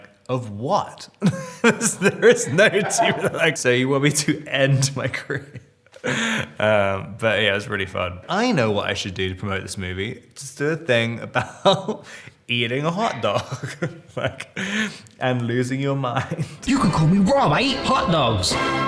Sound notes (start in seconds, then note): 1.2 Robert laughing; 6.0 Robert laughing; 13.2 Robert laughing